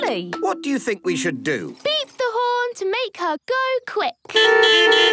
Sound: beeping

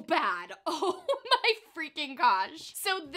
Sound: laughs

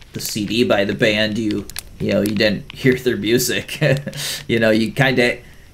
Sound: laughs

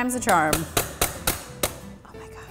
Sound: banging

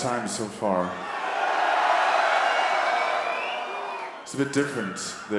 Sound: audience cheering

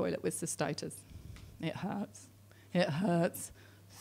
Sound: none

